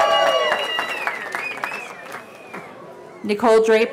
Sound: cheering

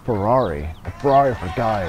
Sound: cheering and applauding

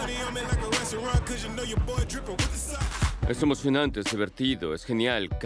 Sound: ríe

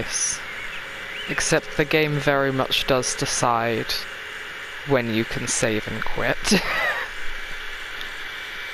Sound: laughs

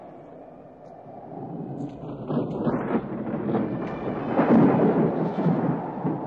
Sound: wind blowing; thunder rolling

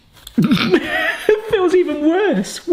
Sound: laughing

